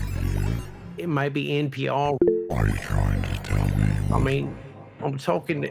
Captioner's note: computer error beep